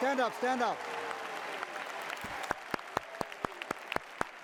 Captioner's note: cheering